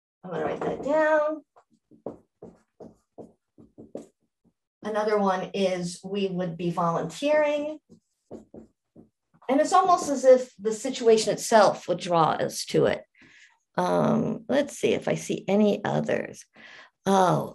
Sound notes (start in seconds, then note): 3.5 marker tapping board